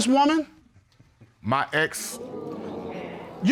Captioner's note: audience exclaims